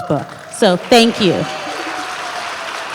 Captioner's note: applause